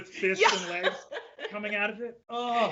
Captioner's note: laughs